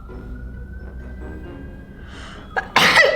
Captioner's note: sirens threaten outside; catastrophically hairy sneeze